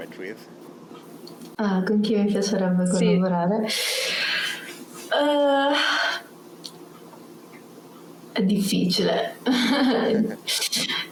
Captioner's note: speaks Italian